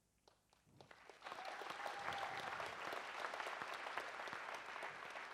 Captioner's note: audience applauds